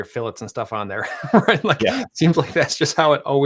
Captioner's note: chuckles